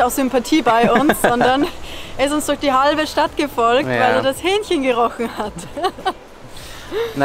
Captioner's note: laughing